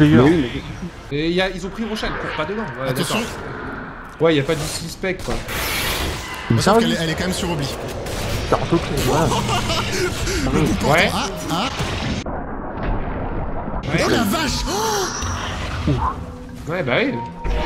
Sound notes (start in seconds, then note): 8.9 laughs